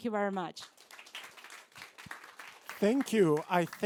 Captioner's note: applause